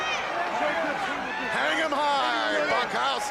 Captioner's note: crowd chatter